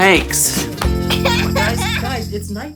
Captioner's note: laughing